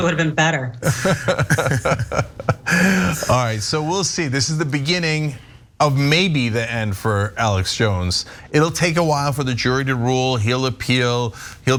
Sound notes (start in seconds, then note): 0.8 laugh